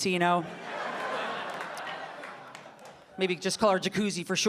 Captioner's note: audience laughing